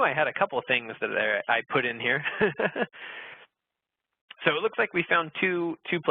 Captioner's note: laughing